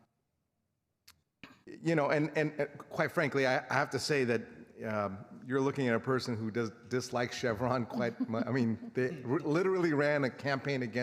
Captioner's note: laughter